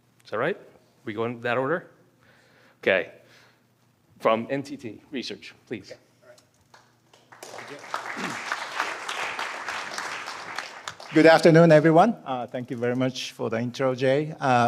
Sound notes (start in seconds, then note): 7.1 applause